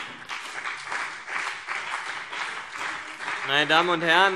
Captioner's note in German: Beifall CDU und BÜNDNIS 90/DIE GRÜNEN